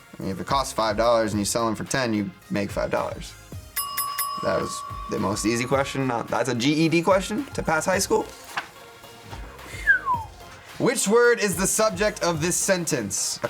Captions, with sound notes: If it costs $5 and you sell 'em for $10, you make $5. That was the most easy question. That's a GED question to pass high school? (whistles) Which word is the subject of this sentence?